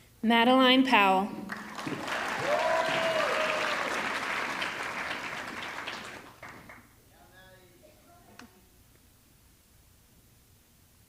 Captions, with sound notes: Madeline Powell, (audience clapping) (audience cheering)